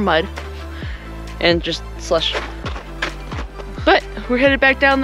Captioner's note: slush sounds